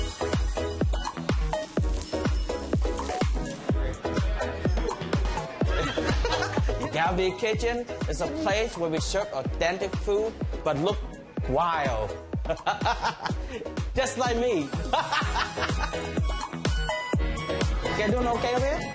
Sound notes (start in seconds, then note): 5.6 laughter; 12.2 laughs; 14.9 laughs